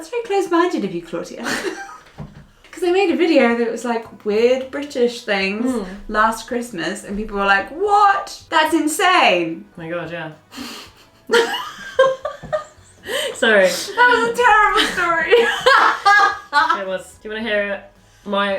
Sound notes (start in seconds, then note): 1.4 laughing; 10.6 both laughing; 13.8 laughing; 16.0 laughing